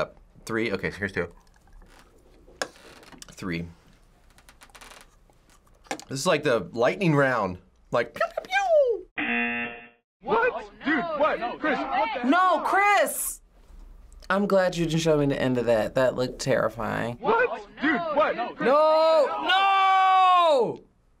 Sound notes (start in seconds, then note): 9.2 buzzer